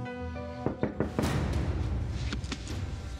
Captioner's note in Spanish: toques en la puerta